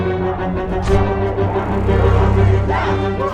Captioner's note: stabs